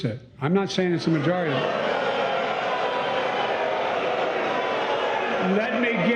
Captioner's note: boos and shouting